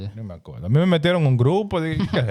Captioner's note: speaking In Foreign Language